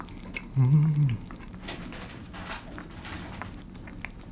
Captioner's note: rustle rustle